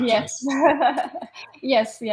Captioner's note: laughs